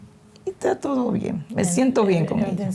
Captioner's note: speaking spanish